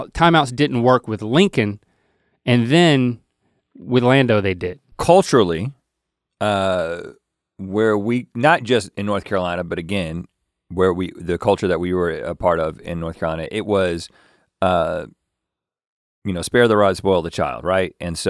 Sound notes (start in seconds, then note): none